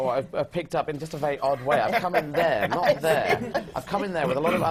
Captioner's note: laughter from the panel